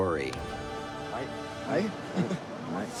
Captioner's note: speaking Maori